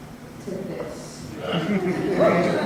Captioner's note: audience laughter